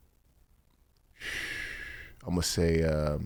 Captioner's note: blows air